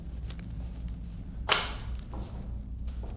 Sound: papers drop to table

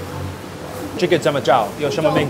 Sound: Mandarin

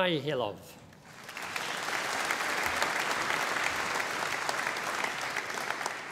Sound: audience applauding

